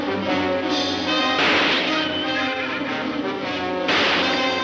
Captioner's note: gunshot banging; gunshots banging